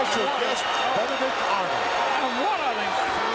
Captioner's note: audience cheering; gorilla speaks faintly